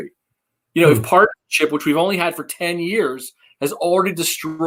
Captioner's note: faintly speaking